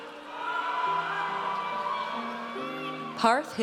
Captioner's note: audience cheers